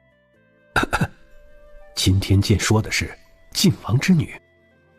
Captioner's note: coughs